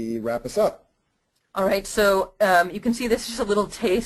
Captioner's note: voiceover